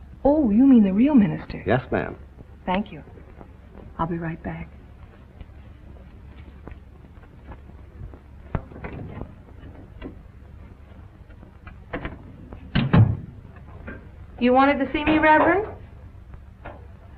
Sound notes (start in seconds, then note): none